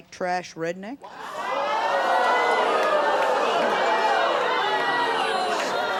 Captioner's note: audience gasping, jeering